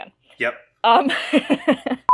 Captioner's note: laughs